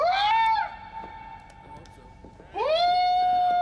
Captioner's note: Rick shouting